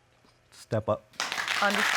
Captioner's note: audience applauding